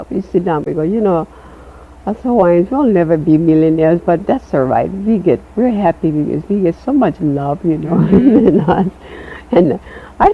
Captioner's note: chuckles